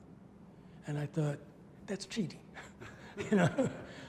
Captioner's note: laughs